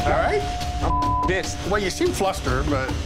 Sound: beep

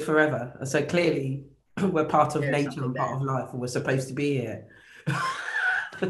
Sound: laughs

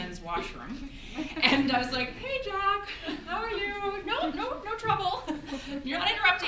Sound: audience giggles

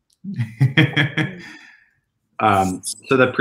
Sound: chuckles softly

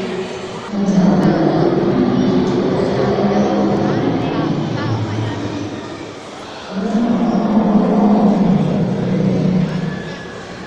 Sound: both dinosaur's growling; other dinosaur growling

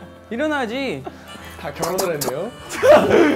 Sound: tap tap tap

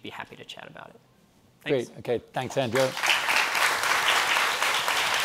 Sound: applause

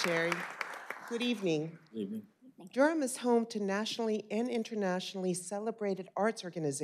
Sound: applause

